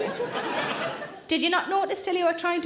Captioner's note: audience laughing